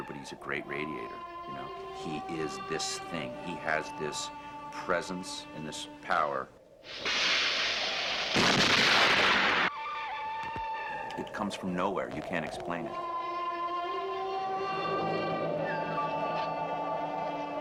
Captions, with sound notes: but he's a great radiator. You know, he is this thing, he has this presence and this power. (explosion ignites) It comes from nowhere. You can't explain it. (mysterious western music)